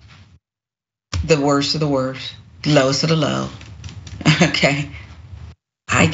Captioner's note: laugh